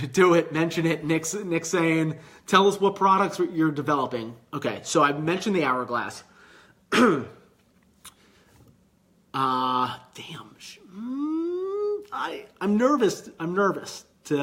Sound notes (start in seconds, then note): 6.9 clears throat; 10.9 groaning